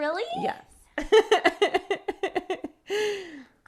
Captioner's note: laughs